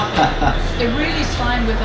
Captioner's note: laughs